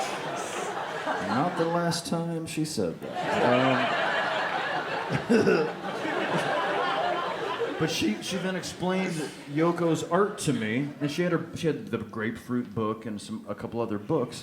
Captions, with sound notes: Not the last time she said that. (laughs) But she then explained Yoko's art to me, and she had the grapefruit book, and